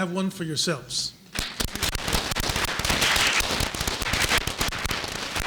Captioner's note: applause